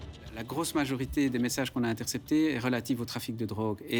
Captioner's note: French spoken audio